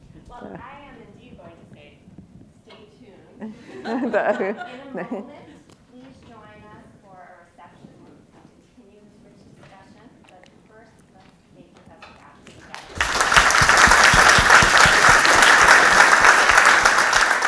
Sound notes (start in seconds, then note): 7.8 faintly speaking; 12.7 attendees applauding